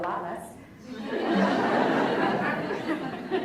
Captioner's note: laughs